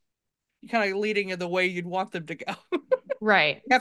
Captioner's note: laughs